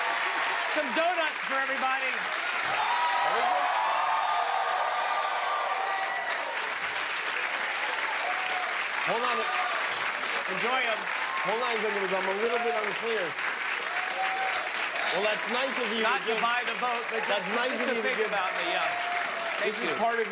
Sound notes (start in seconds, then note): 0.0 cheers and applause